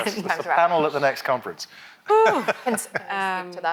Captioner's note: laughs